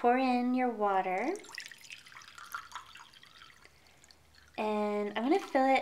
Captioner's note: water drips